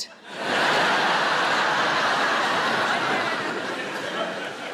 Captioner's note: audience laughing